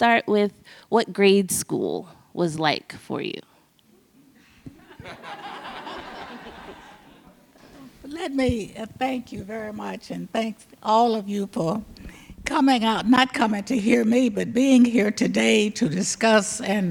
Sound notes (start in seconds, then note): 4.8 audience laughs